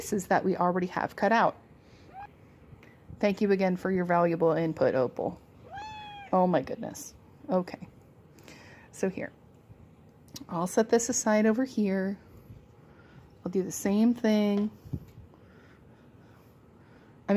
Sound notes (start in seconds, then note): 5.6 meow